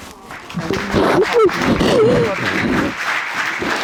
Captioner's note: applause